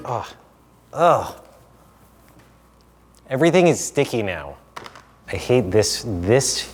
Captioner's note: sigh